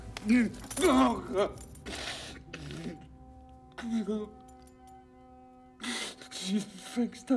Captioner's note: Lance sobbing